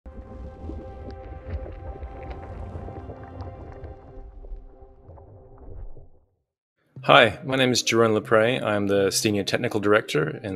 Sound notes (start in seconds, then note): 0.1 gentle music; 1.6 liquid flowing